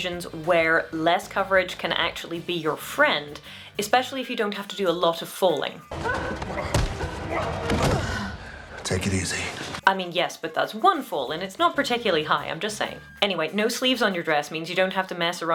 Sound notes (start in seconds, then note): 5.9 falling